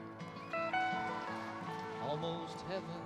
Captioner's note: crowd cheering